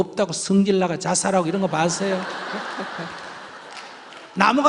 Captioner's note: questioner/Audience Laughter